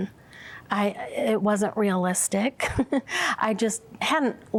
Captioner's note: giggles